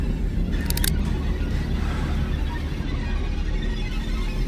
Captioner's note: firearm click